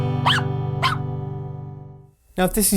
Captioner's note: barking